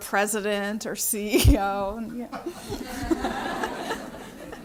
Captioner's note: laughter